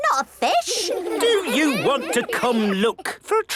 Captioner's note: children giggling